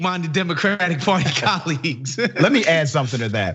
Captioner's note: laugh